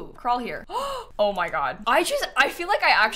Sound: gasps

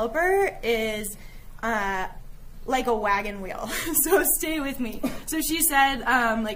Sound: giggling

